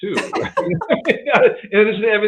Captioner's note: both laugh